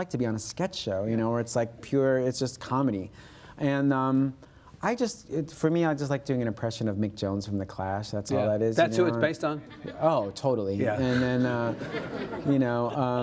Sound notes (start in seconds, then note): 11.0 audience laughs